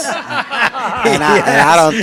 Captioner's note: participants laugh